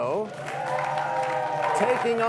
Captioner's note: cheers and applause